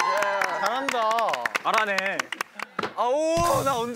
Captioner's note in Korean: 감탄